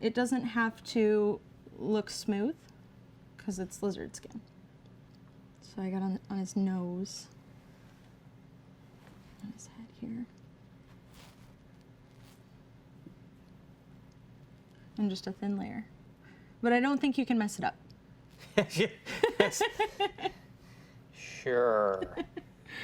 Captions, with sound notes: it doesn't have to look smooth 'cause it's lizard skin. So I got on his nose, on his head here. And just a thin layer. But I don't think you can mess it up. (light laughter) Sure.